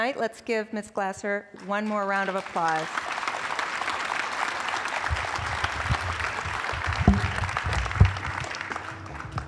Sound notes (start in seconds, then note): 1.5 applause